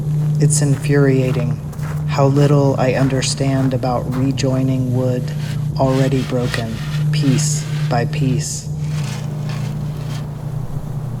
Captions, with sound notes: it is infuriating [sound of foosteps on gravel] how little I understand about re-joining wood already broken piece by piece- [sound of wood on gravel]